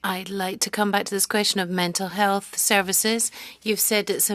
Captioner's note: speaking french